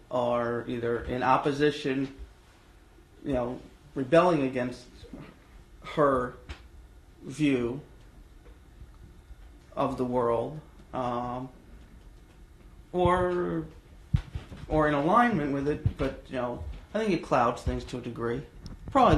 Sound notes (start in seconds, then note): 9.4 pauses for 3 seconds